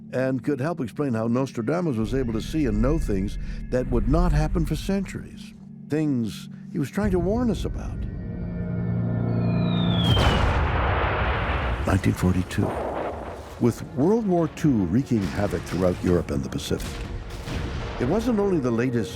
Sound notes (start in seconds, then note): 8.7 whistling; 9.6 explosion